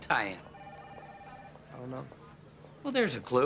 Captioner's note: phone ringing